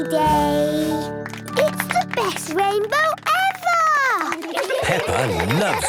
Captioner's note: laughter